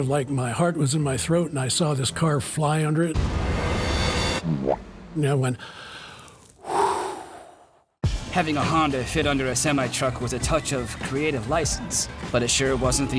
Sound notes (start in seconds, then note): 5.6 inhales deeply, exhales sharply